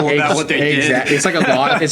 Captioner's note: laughing